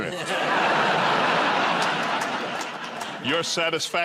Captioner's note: laughter